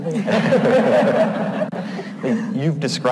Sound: all laugh

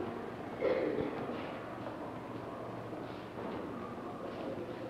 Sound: patients walking in hallway, indiscriminate chatter; coughing; chatter

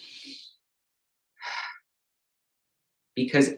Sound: inhales heavily

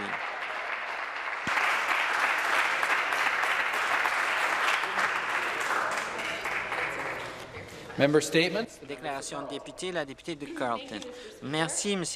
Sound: some applause

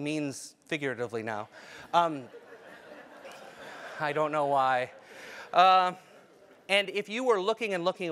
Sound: laugh

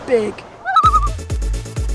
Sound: loon call

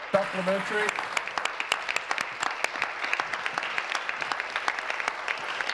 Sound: applause

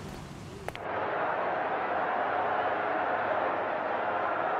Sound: people cheering

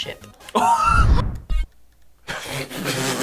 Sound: React laughs; game beeps; laughs

